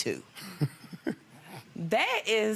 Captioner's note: chuckles